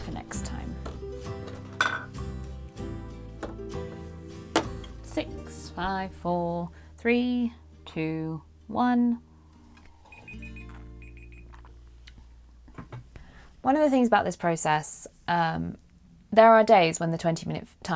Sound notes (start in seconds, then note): 10.0 alarm beeps